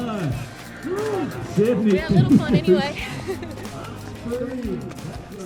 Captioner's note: laughs